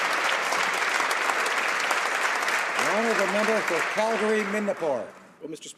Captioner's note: applause